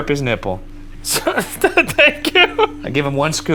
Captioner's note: laughing